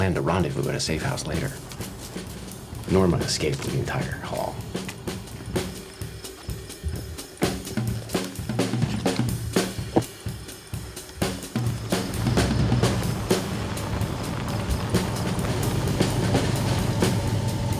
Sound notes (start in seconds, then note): 5.3 jazz drum music; 12.6 engine rumbling